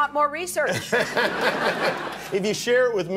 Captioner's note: audience laughter